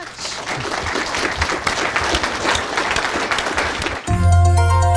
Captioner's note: audience clapping; upbeat engaging music